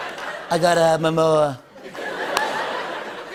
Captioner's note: laughter